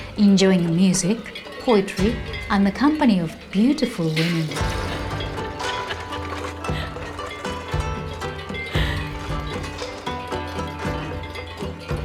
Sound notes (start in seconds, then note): 4.5 gentle thoughtful music; 5.4 court person laughing